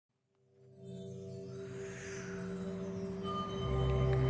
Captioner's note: wind and music